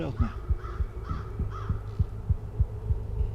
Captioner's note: A bird caws